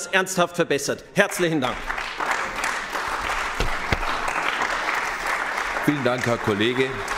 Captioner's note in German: Beifall bei den GRÜNEN